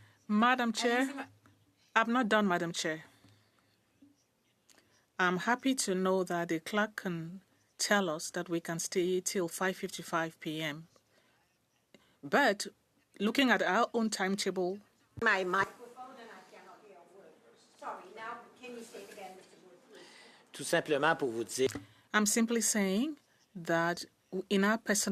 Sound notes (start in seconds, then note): 6.7 speaking French